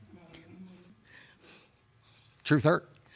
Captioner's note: sniffling; audience muttering